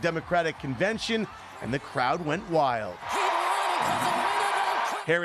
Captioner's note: cheering